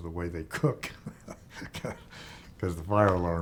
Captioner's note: chuckling